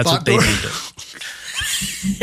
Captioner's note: laugh